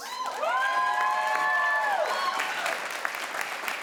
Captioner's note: crowd applauds